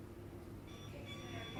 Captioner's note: beeping